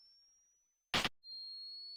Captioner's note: camera Flash